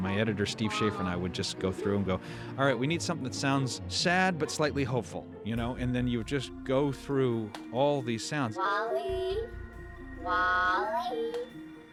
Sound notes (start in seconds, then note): none